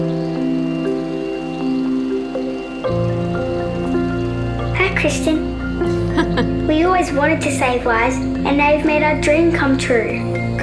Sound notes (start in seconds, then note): 5.9 chuckling